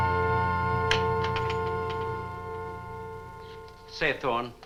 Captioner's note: door opens